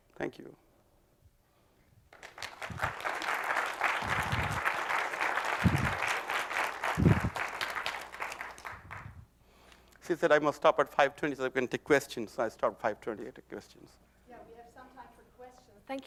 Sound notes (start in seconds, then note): 2.1 applause